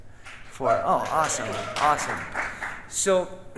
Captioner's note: audience cheering